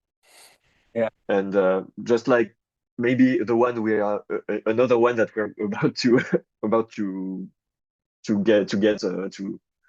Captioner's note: chuckles